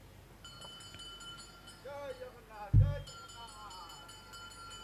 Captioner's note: garbage collector chanting and ringing bell